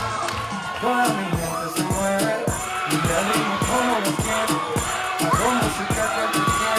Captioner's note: audience cheering